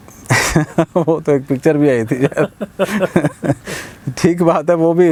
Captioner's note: laughing